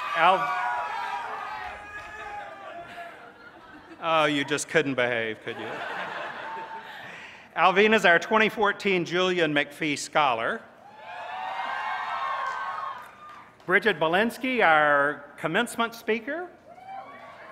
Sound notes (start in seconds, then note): 0.0 cheers; 8.2 laughter; 13.6 cheers